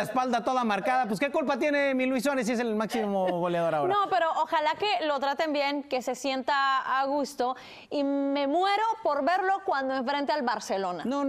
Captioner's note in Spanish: risas